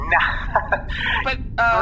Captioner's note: laughing